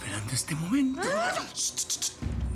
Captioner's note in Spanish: exclamación